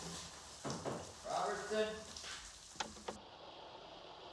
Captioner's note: knocking